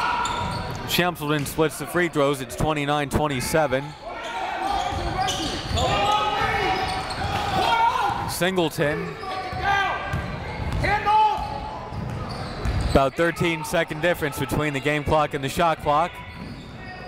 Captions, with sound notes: Shamsaldeen splits the free throws, it's 29-27. (crowd talking) (coaches yelling) Singleton. (crowd talking) (coaches yelling) About 13 second difference between the game clock and the shot clock.